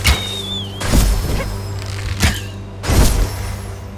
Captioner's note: arrows whistle